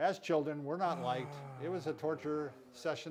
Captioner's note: sighs